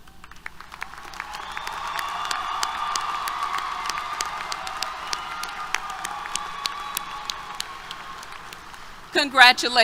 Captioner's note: applause, Cheers